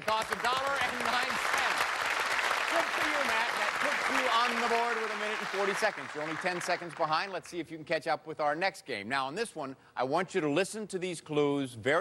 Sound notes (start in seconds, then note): 2.1 applause